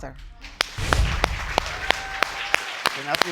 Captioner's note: audience applauds